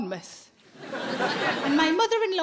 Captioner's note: audience laughing